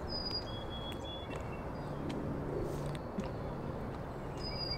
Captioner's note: birds continue chirping